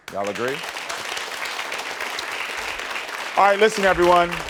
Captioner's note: audience clapping